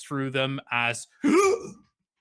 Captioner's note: gasps